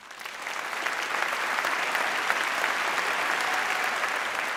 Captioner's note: audience applauding